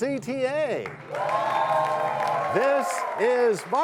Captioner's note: cheers and applause